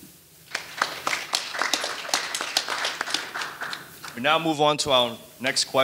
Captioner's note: audience applauding